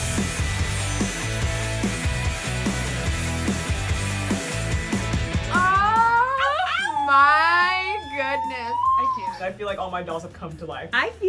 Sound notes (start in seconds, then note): 0.0 rock music continues; 5.9 squealing